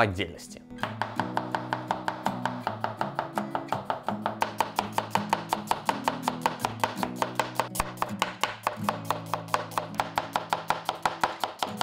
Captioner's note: rapid chopping